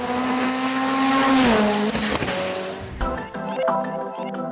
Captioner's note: engine humming; lively music